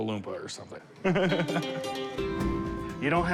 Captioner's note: laughs